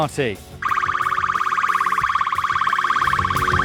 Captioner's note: siren blares